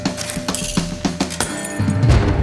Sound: buzzing; glass shatters

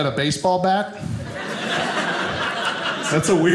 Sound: audience laughing

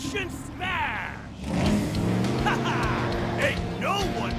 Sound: laughing

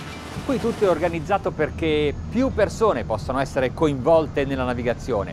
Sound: speaking in foreign language

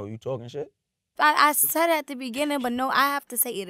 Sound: none

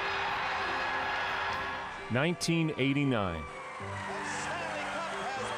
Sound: cheers and Applause

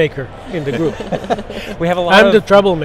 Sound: laughs

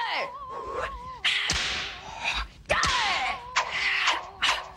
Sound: snapping sounds

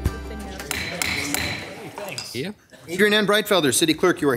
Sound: gavel pounding

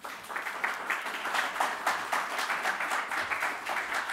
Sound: audience clapping

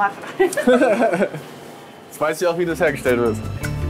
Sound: laugh

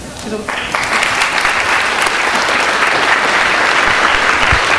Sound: audience applauding

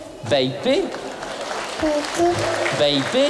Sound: soft applause

